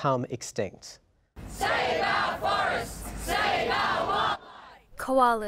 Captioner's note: crowd Chanting